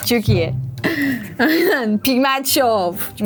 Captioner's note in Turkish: Gülüşmeler